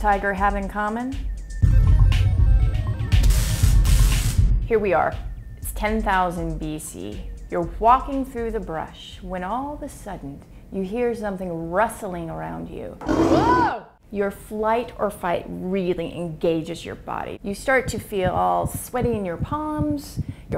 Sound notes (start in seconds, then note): 13.0 tiger roars; 13.0 screams